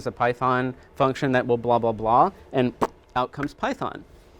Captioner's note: blows a raspberry